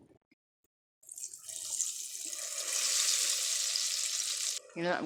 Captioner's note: tempura sizzles